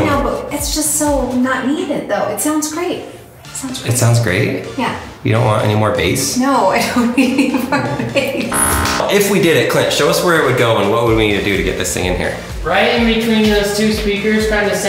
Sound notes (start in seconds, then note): 8.5 buzzer